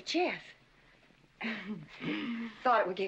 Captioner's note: hemming & hawing